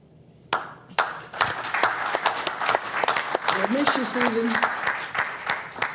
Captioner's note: applause